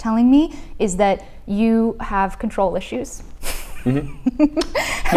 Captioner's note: laughs